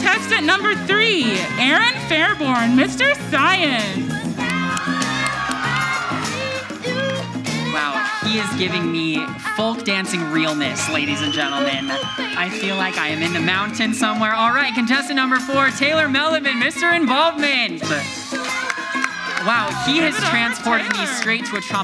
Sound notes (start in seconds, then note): 4.3 audience yells; 4.7 upbeat music; 18.2 audience applauds